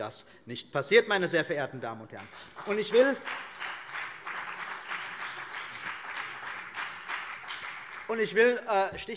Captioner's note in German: Beifall CDU und BÜNDNIS 90/DIE GRÜNEN